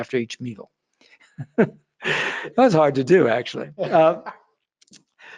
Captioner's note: laughs